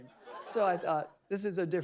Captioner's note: audience laughing